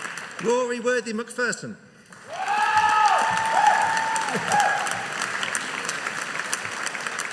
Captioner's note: audience cheering